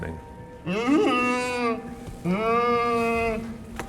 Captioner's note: moans